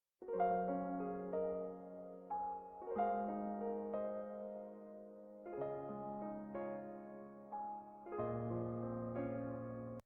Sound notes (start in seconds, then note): none